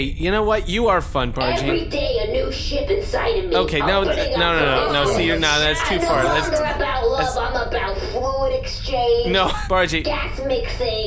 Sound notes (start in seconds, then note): 9.0 half-laughing